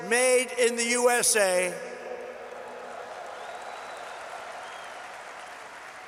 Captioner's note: applause